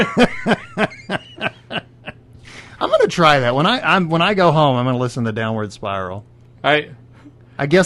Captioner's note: laughs very hard; countinues laughing